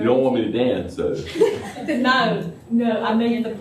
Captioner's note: laughter